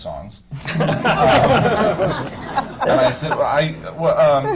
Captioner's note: laughter